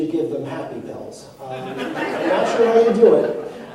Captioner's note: laughter